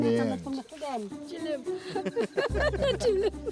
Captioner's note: both laughing